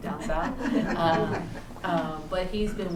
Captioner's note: laughter